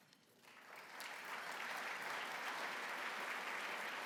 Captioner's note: applause